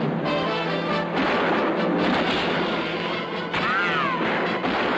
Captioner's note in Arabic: طلقات نارية